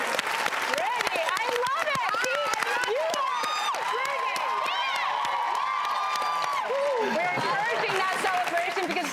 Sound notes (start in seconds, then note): 3.0 audience keeps cheering and applauding